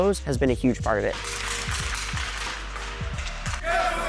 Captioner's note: hockey sticks hitting ice